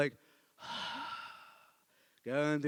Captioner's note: sighs